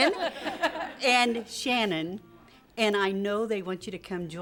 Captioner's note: �laughing�